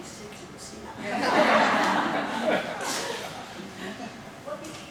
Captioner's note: audience laughing